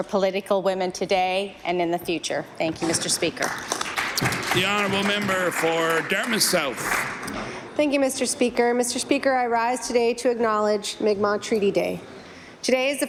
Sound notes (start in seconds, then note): 7.4 applause